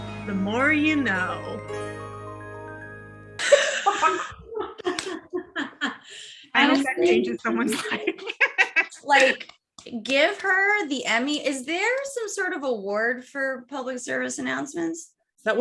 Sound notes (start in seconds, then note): 3.4 laughs